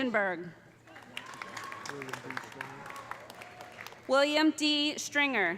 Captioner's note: audience applauding; audience cheering